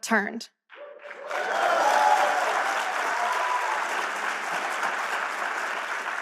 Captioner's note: audience applause